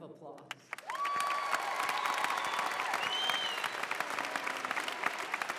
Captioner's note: applause, cheering